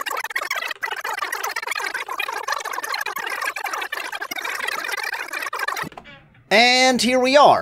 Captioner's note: fast forwarding